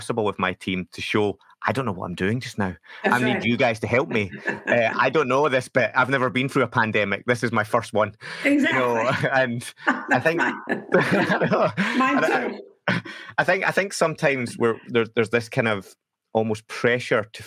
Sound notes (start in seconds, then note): 8.0 laughing